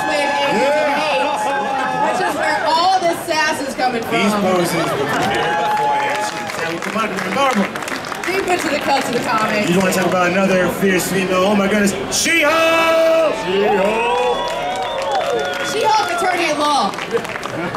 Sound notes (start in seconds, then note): 0.0 audience cheering drowns out female announcer; 7.0 crowd cheering drowns out male announcer; 12.3 audience cheering